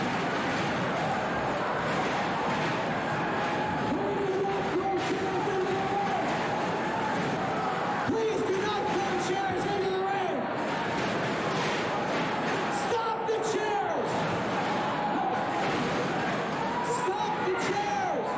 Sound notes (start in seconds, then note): 4.0 cheers and applause